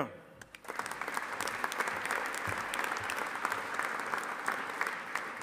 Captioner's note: audience applauding